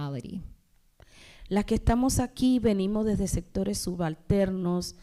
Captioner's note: speaking spanish